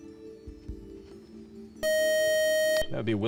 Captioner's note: time out buzzer